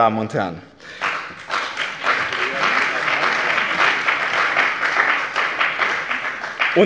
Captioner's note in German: Beifall bei dem BÜNDNIS 90/DIE GRÜNEN und der CDU